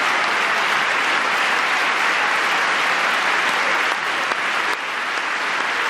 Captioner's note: applause